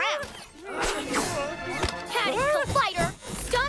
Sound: nervous whimpering

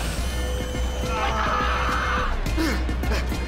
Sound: screaming

